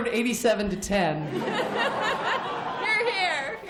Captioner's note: laughter